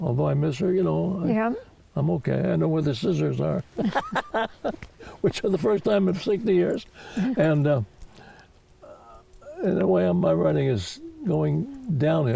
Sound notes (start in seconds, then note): 3.7 laughs